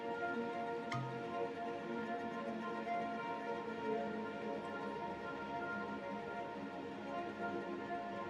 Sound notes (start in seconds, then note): 0.9 cork pops